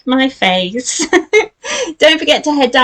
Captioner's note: giggles